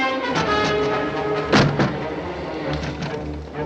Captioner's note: window rattling